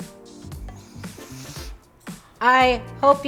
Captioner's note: breathes in